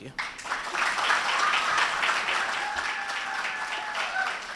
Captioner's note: ^applause^